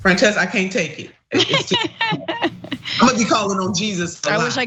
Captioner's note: laugh